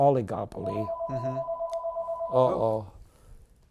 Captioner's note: phone rings